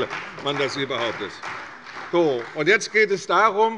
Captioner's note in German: Beifall bei der CDU